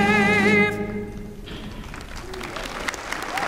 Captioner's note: applause